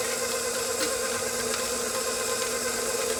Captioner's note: grinder whirring